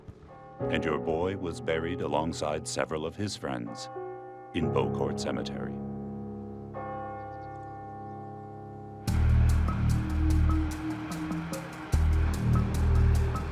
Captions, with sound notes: and your boy was buried alongside several of his friends in Beaucourt Cemetery." (bells ring) (dramatic suspenseful music)